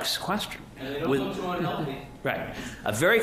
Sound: background mumbling

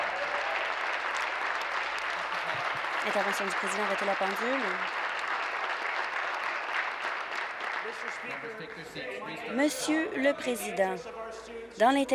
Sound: applause

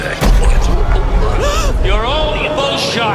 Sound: crowd gasping

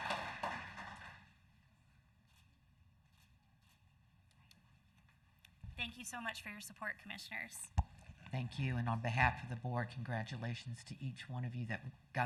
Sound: applause

